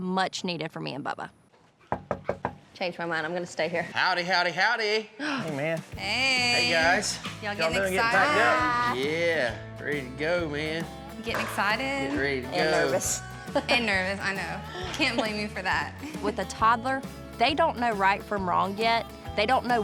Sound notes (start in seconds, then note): 1.9 knock on door; 14.4 laughing